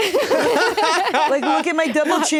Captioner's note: laugh